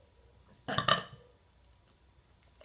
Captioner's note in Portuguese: Arroto